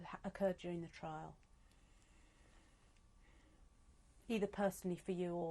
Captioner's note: pauses for 3 seconds